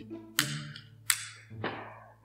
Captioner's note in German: Feuerzeuggeräusche